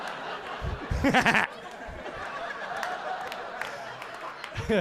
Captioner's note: audience laughing